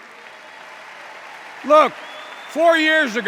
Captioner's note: applause